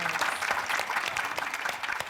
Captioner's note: applause